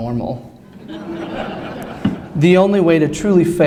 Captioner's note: laughter